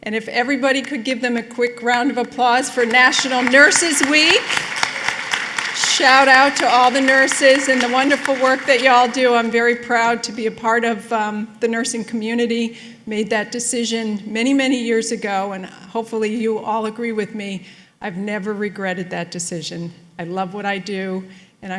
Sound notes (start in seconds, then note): 4.4 applause